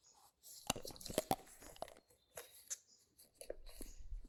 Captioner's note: chewing